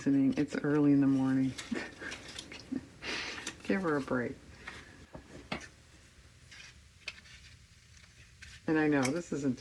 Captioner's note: laughs